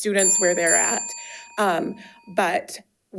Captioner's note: bell dings